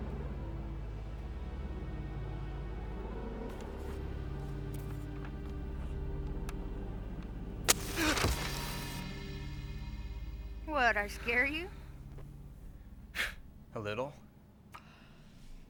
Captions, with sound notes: [ Match Strikes ] [ Gasps ] - WHAT, DID I SCARE YOU ? - [ Chuckles ] A LITTLE.